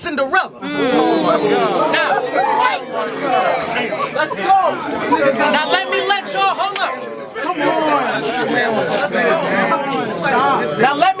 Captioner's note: crowd Reaction